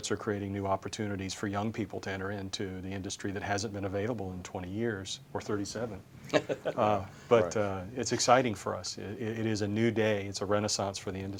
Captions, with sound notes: ARE CREATING NEW OPPORTUNITIES FOR YOUNG PEOPLE TO ENTER INTO THE INDUSTRY THAT HASN'T BEEN AVAILABLE FOR 20 YEARS OR 37. [LAUGHTER] >> IT IS EXCITING FOR US A NEW DAY A RENAISSANCE FOR THE